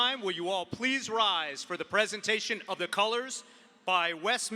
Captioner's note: none